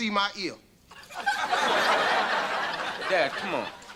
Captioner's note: audience laughter